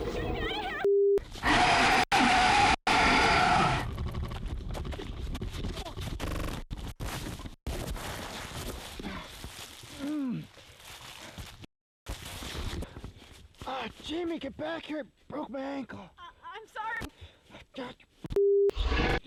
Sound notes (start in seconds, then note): 2.9 snarling and roaring